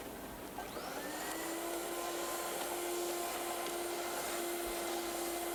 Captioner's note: copier whirring